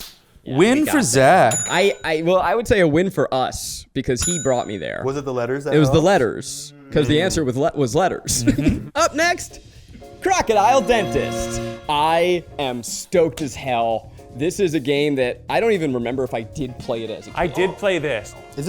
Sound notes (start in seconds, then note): 1.4 call bell pinging; 10.7 chiming music